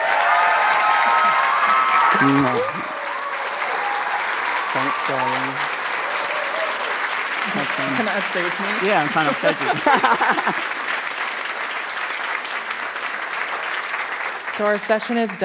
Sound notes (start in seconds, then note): 0.1 applause and Cheering; 6.1 applause and Cheering; 11.1 applause